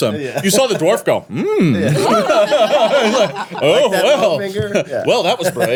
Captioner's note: everyone laughing